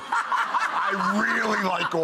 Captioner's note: laughing